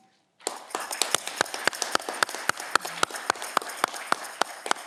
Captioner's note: audience clapping